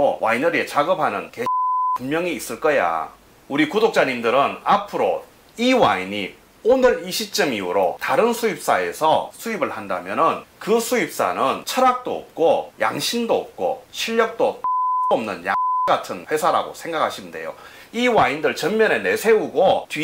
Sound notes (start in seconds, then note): 14.6 beep